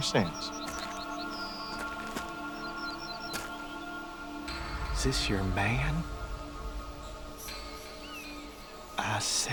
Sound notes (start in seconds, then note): 4.6 Promise thuds